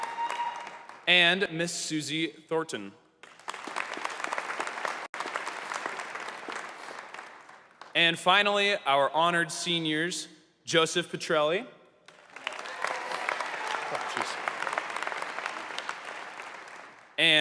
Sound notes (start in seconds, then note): 5.9 applause